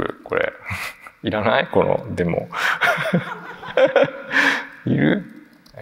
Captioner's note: chuckles